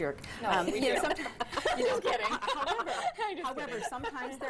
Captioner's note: laughter